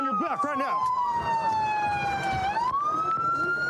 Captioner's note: sirens blaring